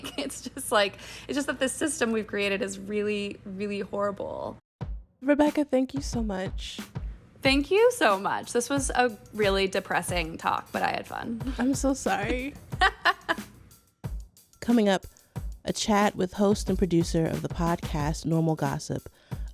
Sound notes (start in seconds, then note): 12.7 laughter